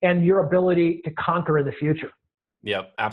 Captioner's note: laughs